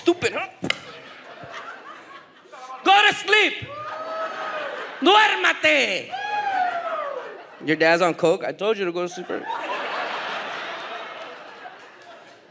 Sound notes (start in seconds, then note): 0.0 audience laughs; 4.7 speaks in a foreign language; 9.0 audience laughs